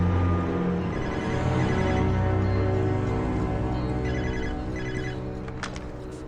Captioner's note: phone rings